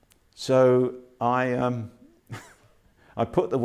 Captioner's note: laughs